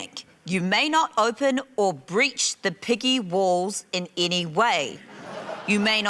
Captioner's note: laughter